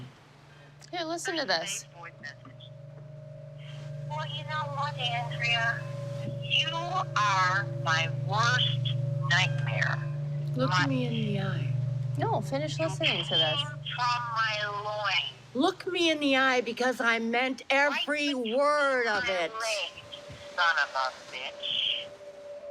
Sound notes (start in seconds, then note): 3.8 on phone; 19.8 on phone